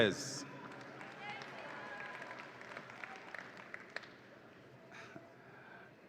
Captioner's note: audience applauds and cheers